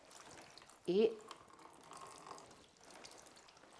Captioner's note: liquid splashing